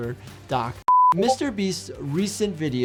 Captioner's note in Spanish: pitido de pantalla